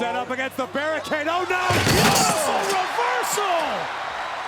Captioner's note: table smacking